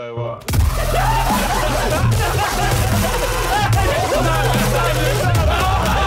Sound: Sidemen laughing and applauding

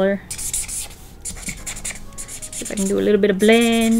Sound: marker squeaks

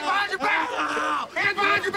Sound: screaming

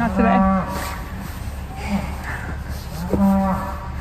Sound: cow Mooing

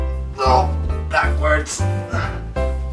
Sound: grunting

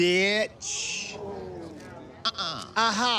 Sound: crowd oohs

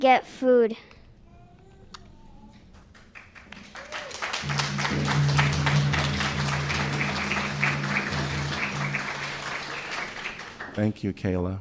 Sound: applause

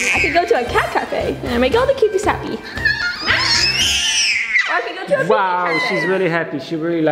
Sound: screaming

